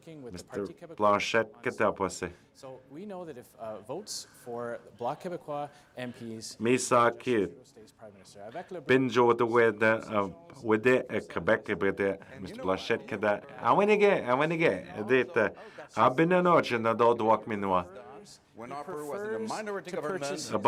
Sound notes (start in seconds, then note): 17.2 speaking French